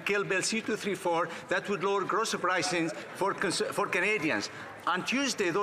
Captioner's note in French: voix de l'interprète